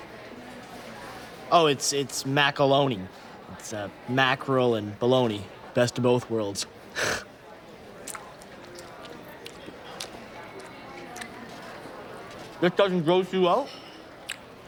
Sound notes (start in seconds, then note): 7.0 laughs; 8.0 munches